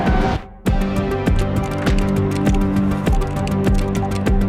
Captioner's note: keyboard clacking